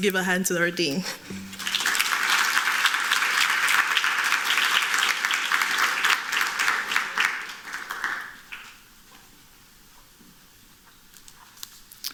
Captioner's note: applause